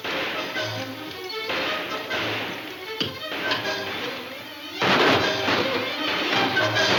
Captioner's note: dramatic music; guns firing